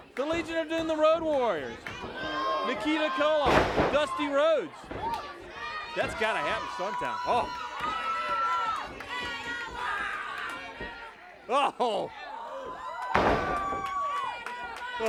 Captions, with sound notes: The Legion of Doom, the Road Warriors. Nikita Koloff, Dusty Rhodes. That's gotta happen sometime. Oh. (audience hollers) Oh.